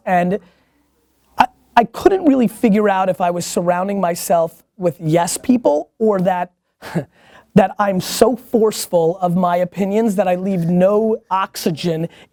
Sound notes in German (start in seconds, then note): 6.8 lacht